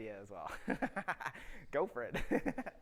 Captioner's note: chuckles